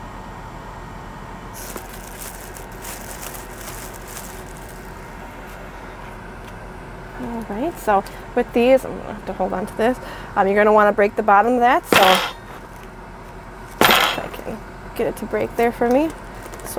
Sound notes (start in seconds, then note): 1.4 air conditioner whirring; 1.5 plastic crinkling